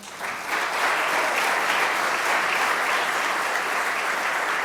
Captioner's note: applause